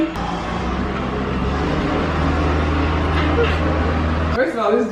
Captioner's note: construction equipment humming